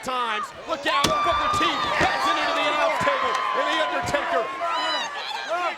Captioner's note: overlapping chatter